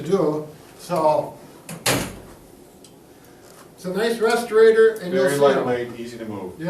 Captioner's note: chair clanks